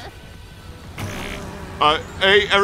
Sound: poop noise

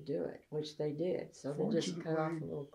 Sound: laughs

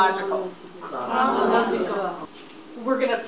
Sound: voiceover

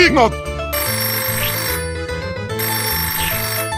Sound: phone rings

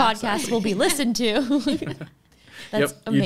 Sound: all laughing

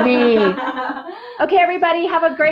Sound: laughs

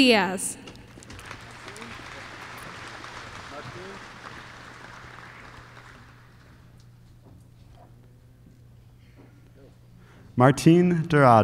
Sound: applause

